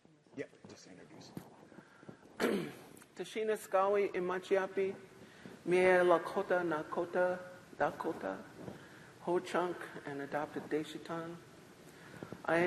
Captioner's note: not speaking english